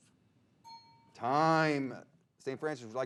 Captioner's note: bell dings